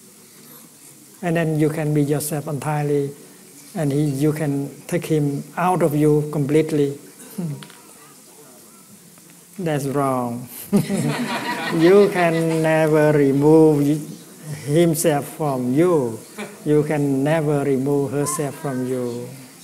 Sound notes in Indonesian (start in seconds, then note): 10.7 Suara tertawa